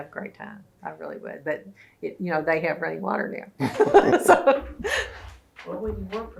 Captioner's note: laughter